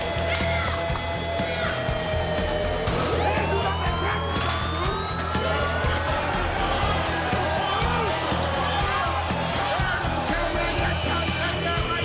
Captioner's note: crowd chatter; bell ringing